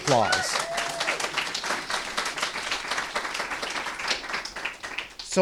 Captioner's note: applause